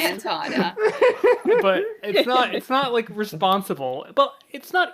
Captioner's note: laughs